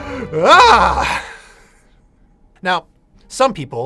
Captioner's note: screams